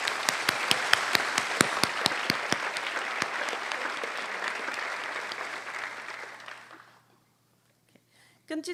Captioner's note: applause